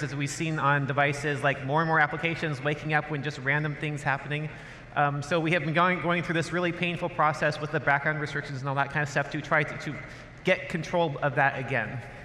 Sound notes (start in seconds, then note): none